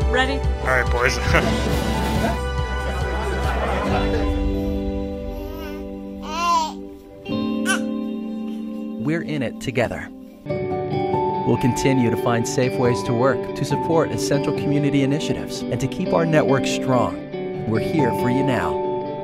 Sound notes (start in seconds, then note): 0.6 people chatting; 1.2 chuckles; 2.0 bright music; 5.8 baby coos